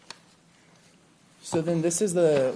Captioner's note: rustling of papers